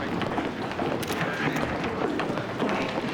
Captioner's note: camera shutters click